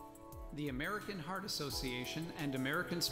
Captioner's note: voiceover